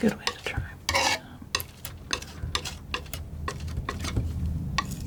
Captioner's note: tapping